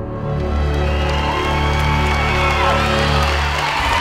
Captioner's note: cheering